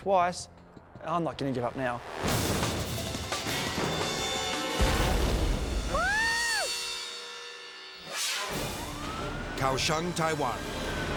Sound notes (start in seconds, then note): 1.5 intense action music; 4.8 explosion pounds; 5.9 cheers; 7.9 energetic dramatic music; 8.4 siren blaring